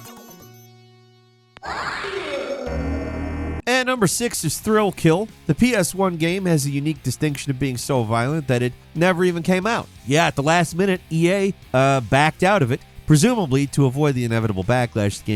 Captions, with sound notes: (character groaning) And number six is "Thrill Kill." The PS1 game has a unique distinction of being so violent that it never even came out. Yeah, at the last minute EA backed out of it, presumably to avoid the inevitable backlash